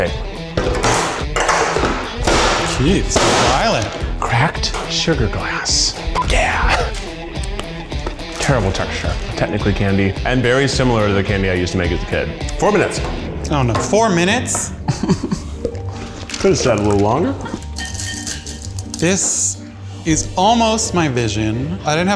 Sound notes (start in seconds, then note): 0.2 energetic music; 0.6 tray clangs; 2.3 metal clatters; 6.1 beep; 7.9 candy crunches